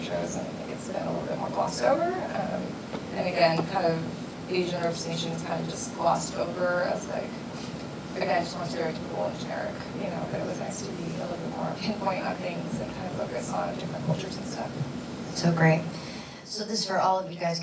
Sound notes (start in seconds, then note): none